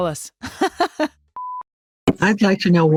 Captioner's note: person laughing